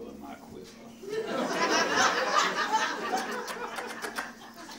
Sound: audience laughs

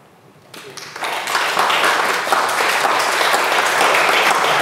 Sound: audience applauds

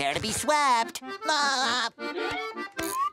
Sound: laughing

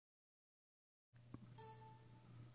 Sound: computer beep

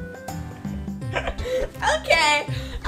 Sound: assistant laughs

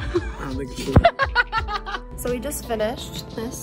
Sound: laughs

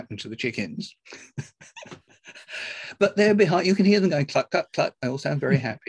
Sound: laughs

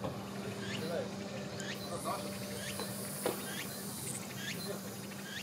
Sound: A bird chirps. Leaves rustle

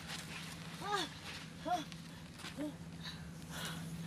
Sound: Ester groaning; Ester panting

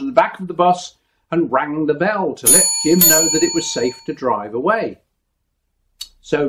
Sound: ding ding

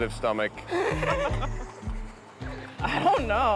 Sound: laughs

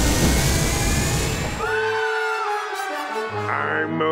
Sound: screaming

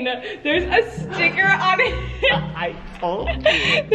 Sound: laughing

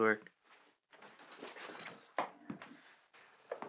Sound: keys and bag rustle

